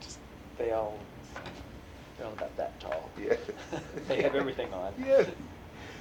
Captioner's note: laughter